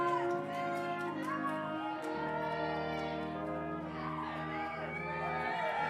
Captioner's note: congregation applauding